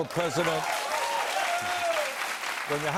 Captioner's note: cheers and applause; whistle, applause